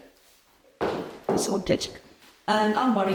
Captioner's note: heels clicking